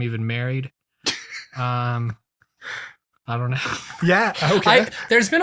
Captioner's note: laughs